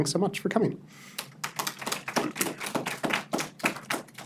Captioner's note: audience applauds